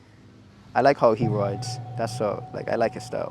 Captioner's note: pluck sfx